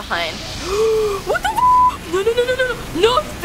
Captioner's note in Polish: głęboki wdech